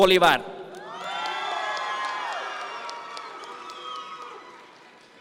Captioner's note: audience members cheer